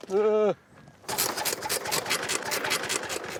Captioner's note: engine stutters